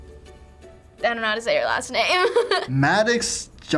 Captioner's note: giggles